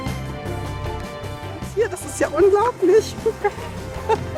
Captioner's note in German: lachend